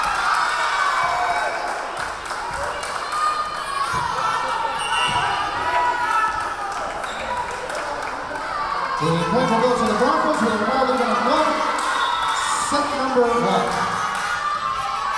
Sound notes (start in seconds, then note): 0.0 clapping; 0.2 yelling; 4.7 whistle blowing; 14.9 yelling